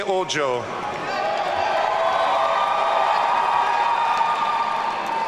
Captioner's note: audience cheering